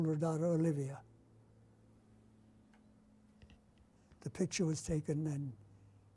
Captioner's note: pauses for 3 seconds